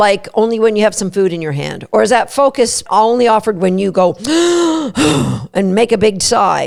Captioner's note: sigh